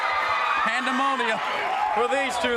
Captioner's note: crowd cheering